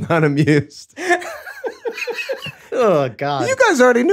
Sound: all laughing

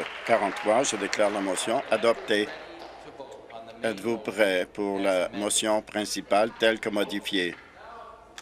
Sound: applause

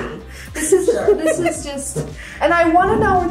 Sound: laughs

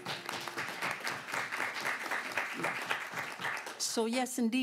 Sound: applause

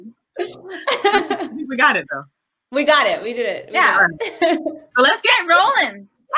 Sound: laughing

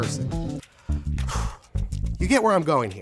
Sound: sighs

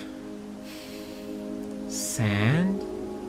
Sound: inhale

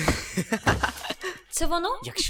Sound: cackling

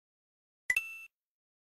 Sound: coin sound bing

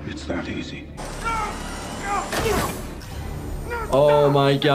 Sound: person screaming

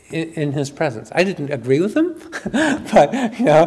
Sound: chuckles

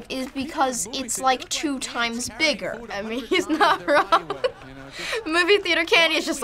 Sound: laughs

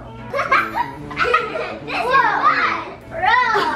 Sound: laughing

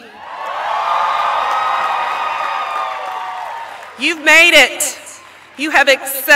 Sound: applause

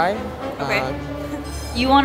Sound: laughs

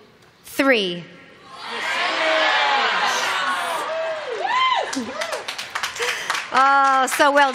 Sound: shouting

